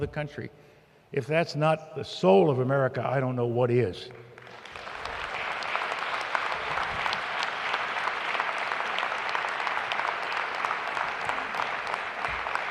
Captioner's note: applause